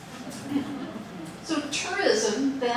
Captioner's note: audience laughing